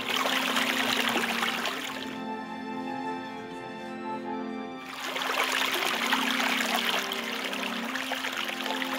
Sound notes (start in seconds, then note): 2.0 water stops; 4.8 water flowing